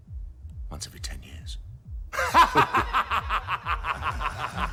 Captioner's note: laughing